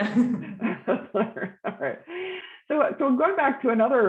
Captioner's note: general laughter